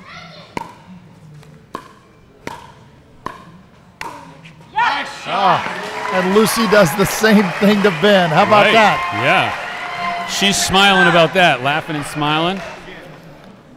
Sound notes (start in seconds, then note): 9.5 audience cheering